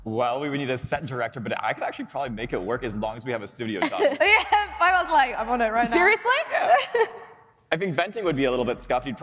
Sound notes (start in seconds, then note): 6.6 laughter